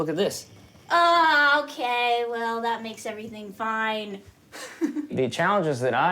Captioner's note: laughing